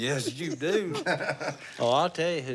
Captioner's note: laughter